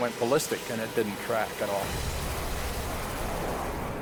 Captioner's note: jet engine noises